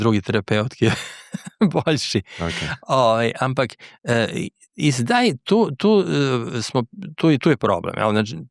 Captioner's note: laughs